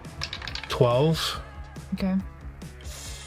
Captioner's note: dice clatter